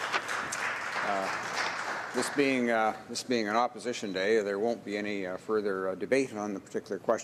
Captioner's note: some Applause